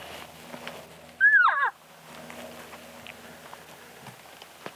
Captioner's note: elk screams